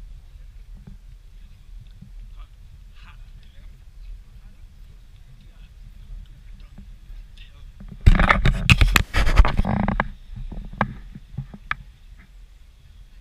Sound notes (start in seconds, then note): 7.8 GoPro HINGE CREAKING